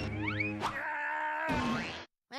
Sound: yelling

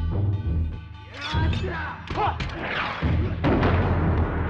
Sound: men grunting and exclaiming

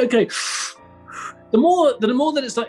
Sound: exhales; inhales

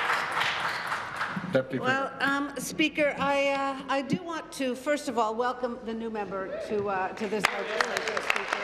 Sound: applause

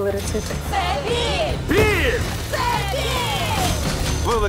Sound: crowd

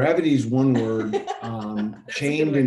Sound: laughing

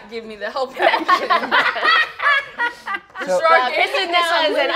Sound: players laughing

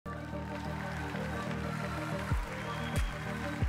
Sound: applause

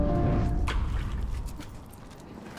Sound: water splashes

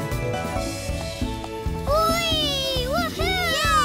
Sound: cheering

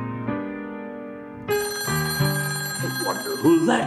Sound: phone ringing

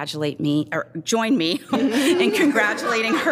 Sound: laughs

